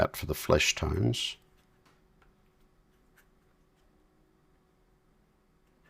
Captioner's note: silence